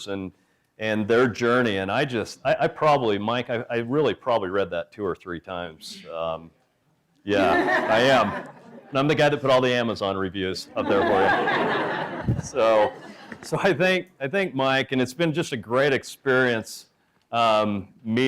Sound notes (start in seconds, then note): 7.4 laughter